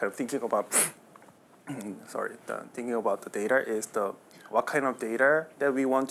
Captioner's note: sniff